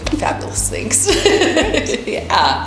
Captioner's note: laughs